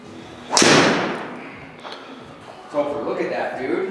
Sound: ball thuds

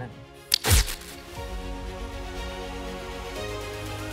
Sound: static hissing; dramatic orchestral music

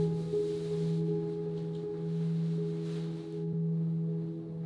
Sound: none

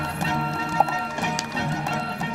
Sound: pop

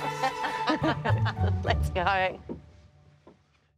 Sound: laughs; chuckles

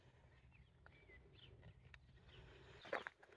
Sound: bird song

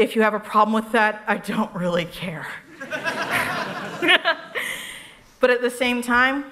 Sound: laughter

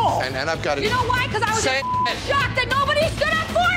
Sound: beep

